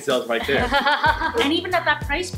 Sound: laughter

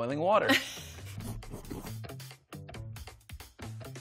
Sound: chuckles

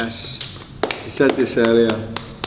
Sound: clapping

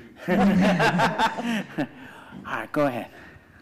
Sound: laughs

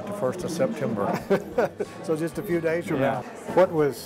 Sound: laughs

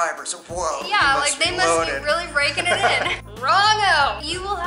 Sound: laughter

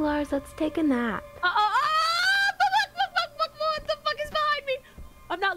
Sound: screaming

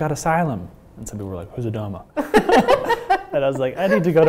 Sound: both laugh

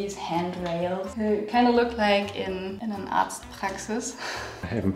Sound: speaking in foreign language; soft laugh

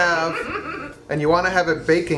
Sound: woman laughs

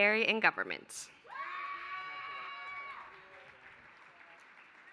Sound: applause

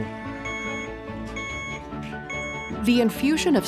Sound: device beeping

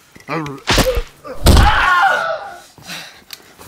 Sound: smack smack

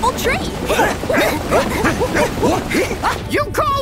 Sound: grunting

